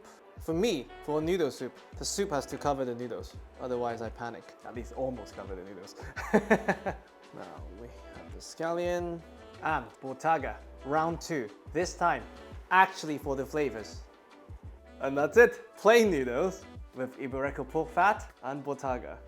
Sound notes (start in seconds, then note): 6.0 laughs